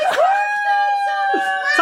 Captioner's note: laughing and cheering